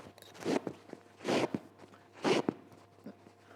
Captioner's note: sewing sound